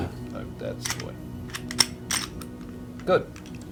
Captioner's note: gun clicking